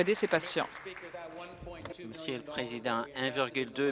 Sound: applause

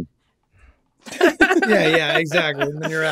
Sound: all laughing

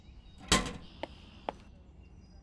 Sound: birds; clank

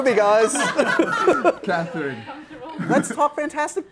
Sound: laughing

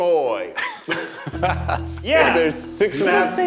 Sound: everyone laughing

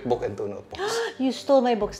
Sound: gasps

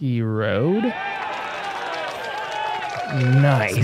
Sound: applause

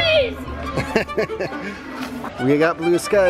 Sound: laughs

